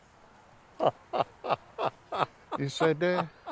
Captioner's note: laughing